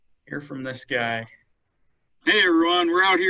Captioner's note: male Voice